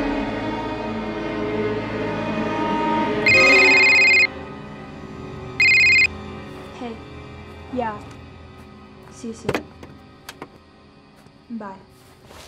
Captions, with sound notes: [cell phone rings] - Hey. Yeah. See you soon. Bye.